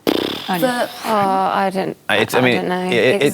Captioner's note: overlapping chatter